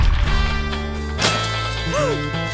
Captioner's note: shotgun blast; glass shatters